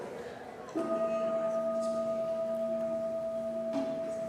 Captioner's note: bell dings